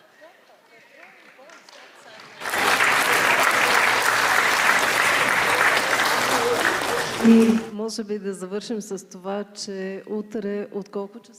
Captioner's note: applause